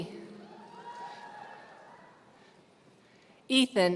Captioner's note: audience cheering